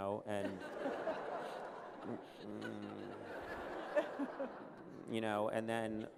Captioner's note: laughter